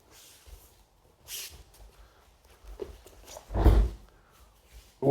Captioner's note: beautiful kata noises